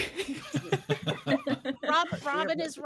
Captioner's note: all laughing